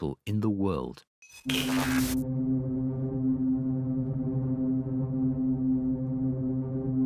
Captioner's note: tense brooding music; static hisses